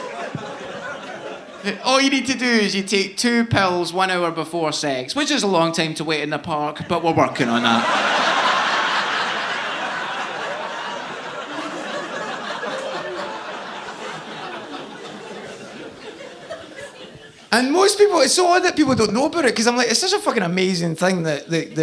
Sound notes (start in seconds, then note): 8.1 audience laughing